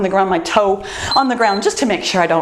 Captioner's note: timer beeps